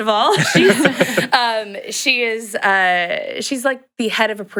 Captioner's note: laughs